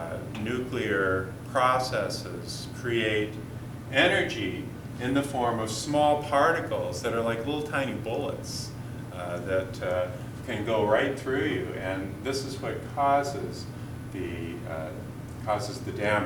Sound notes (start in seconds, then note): none